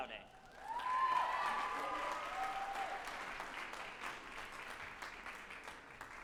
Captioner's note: group applauding and cheering